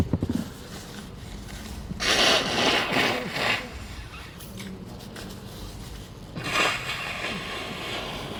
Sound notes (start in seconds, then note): 2.2 pages rustling